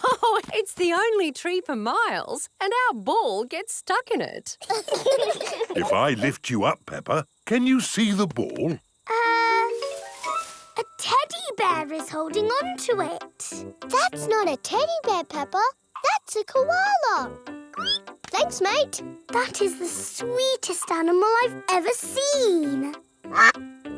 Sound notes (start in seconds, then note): 0.0 laughs; 4.6 children laugh; 17.8 squeals; 23.3 quacks